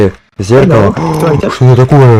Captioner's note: surprised noise